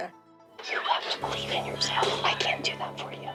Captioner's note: whispers